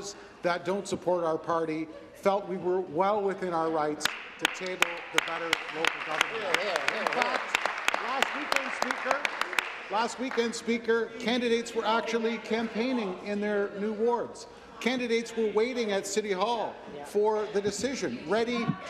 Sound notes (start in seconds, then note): 10.9 applause